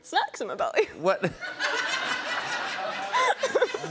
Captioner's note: laughter